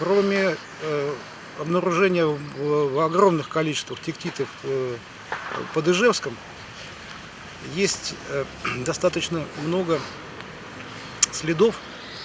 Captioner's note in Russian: откашливается